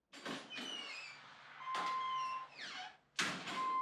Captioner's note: door opens